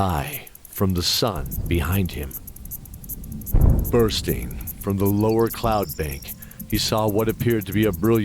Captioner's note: sonic boom